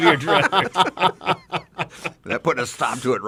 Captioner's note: men laugh